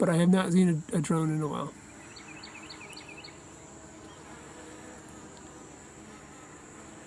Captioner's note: buzzing